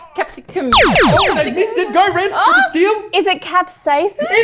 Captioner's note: laser noises